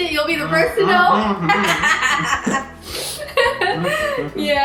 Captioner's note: laughing